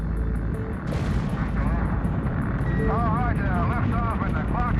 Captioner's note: engines ignite